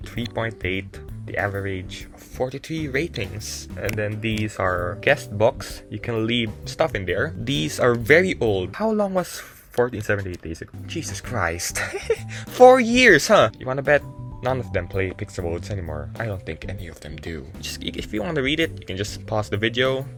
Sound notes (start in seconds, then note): 11.6 chuckling